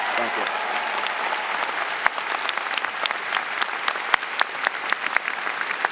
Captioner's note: audience cheering and applauding